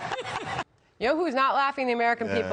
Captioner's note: laughter